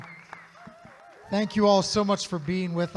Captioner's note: audience applauding